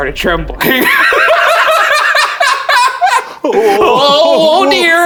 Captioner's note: laughing